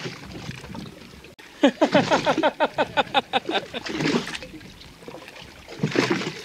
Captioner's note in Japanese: 笑い